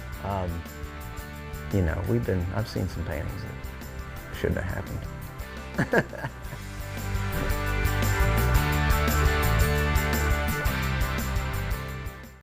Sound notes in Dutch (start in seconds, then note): 5.6 lacht; 7.1 vrolijke muziek